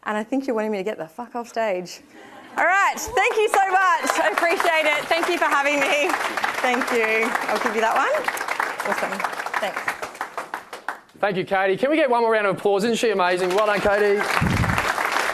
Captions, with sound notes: And I think you're wanting me to get the fuck off stage. (attendees laughing) All right. Thank you so much. I appreciate it. Thank you for having me. (attendees applauding) Thank you. (attendees applauding) I'll give you that one. (attendees applauding) Awesome, thanks. (attendees applauding) - Thank you, Katie. Can we get one more round of applause> Isn't she amazing? Well done, Katie. (attendees applauding)